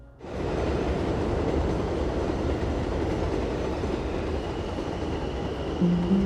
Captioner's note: Trem passando